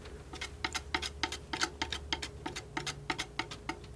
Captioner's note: tapping